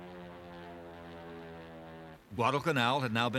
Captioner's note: propeller whirring